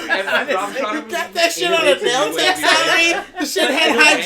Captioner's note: laughter in stark agreement